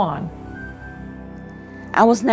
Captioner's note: soundbite of archived recording